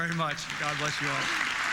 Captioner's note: applause